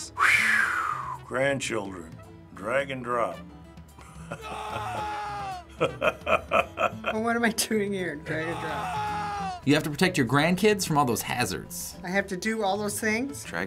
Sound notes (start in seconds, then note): 0.2 exhaling in relief; 4.0 laughing; 4.3 man screaming; 5.7 laughing; 8.3 man screaming